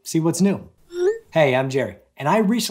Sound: tone chimes

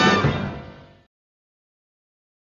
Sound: silence

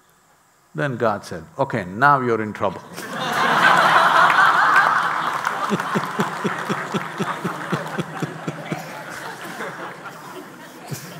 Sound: laughter/Applause

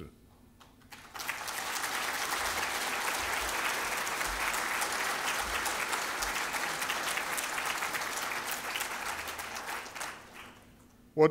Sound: 掌声

